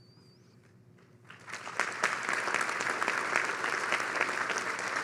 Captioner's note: audience clapping